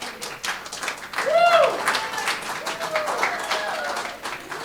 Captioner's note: applause